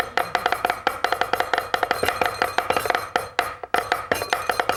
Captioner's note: audience laughing; knives chopping in beat